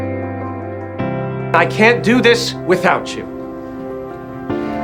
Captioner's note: voiceover